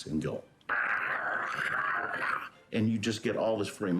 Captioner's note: roaring